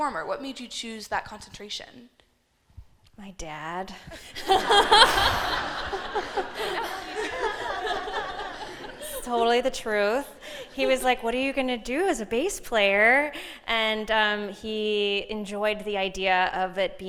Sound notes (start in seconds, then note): 4.1 laughing